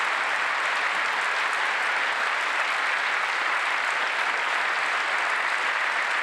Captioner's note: applause